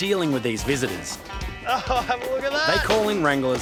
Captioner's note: laughs